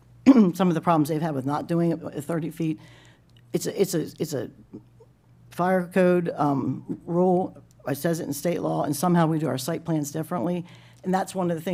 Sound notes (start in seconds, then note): 0.3 clears throat